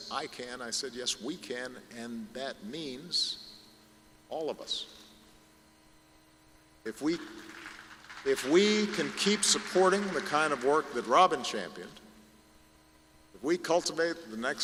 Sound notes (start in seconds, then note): 7.2 applause